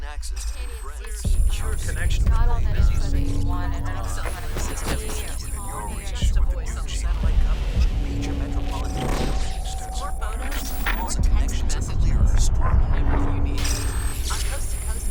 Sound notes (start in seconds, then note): 3.7 electricity crackling